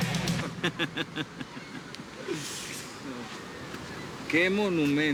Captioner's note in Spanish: Risas